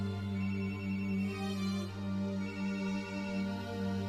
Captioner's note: phone ringing